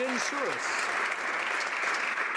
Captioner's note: applause